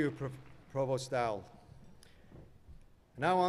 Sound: applause

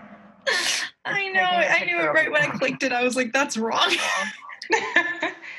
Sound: laughing

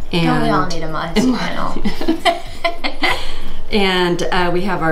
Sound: laughing

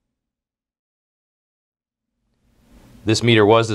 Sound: pause

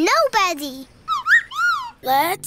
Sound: chirps

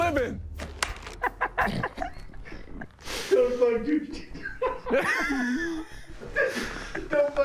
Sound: laughs

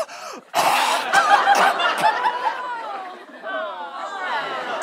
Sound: coughs

